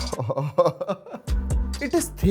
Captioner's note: excited laughs